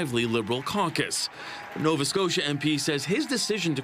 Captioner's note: applause